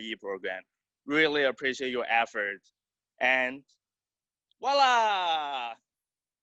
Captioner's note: exclaims